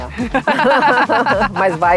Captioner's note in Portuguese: risos